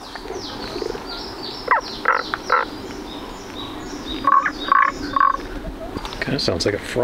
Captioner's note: croaking sound